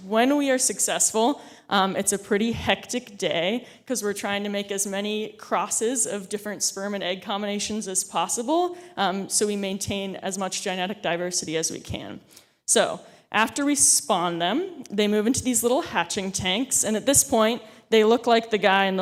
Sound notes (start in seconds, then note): none